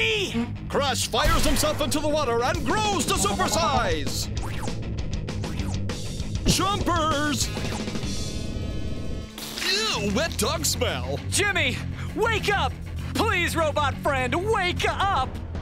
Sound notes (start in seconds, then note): 0.3 narrator Voice; 6.4 narrator Voice; 9.3 narrator Voice